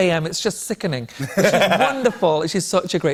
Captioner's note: laughter